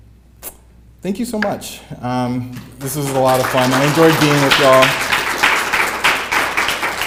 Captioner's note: applause